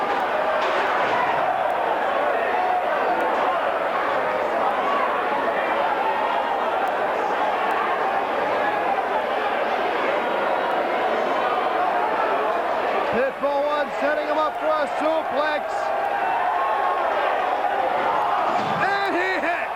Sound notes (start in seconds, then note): 14.3 crowd cheering; 16.4 crowd chatter